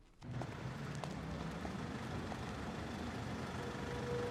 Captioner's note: engine rumbling